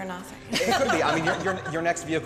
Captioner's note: laughs